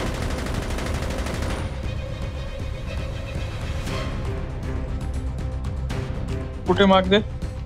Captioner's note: Firing shots